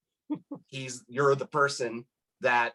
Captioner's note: laughs